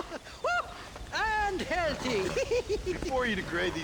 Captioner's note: laugh; laugh